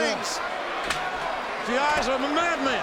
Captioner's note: chair thuds